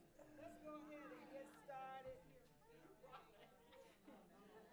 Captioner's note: quietly